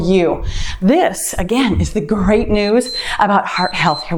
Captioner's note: timer beeps